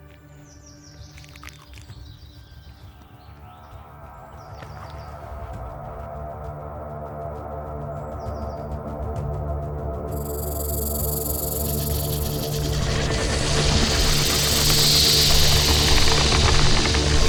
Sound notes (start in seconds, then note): 4.3 tense foreboding music; 10.1 snake rattles; 10.1 snake hisses